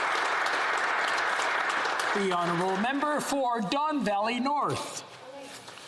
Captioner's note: applause